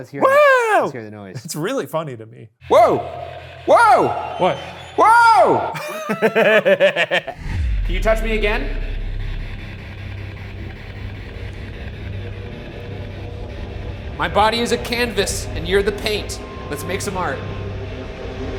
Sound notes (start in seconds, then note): 5.7 pair laughs; 12.3 suspenseful music